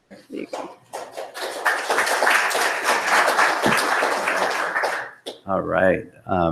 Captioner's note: applause